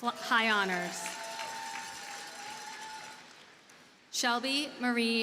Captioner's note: audience cheers and applauds